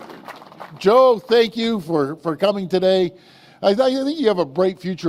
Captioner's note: applause